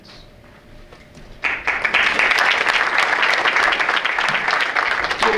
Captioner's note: audience applauds